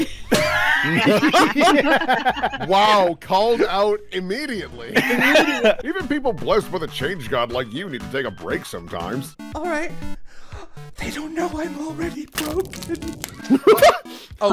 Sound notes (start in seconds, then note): 0.3 laughter; 10.9 whispered; 13.4 laughter